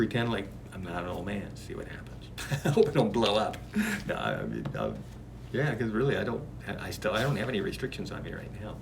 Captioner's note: laughs